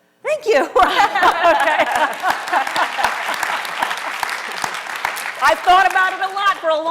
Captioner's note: audience laughter and applause